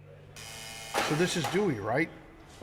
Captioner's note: doors buzzing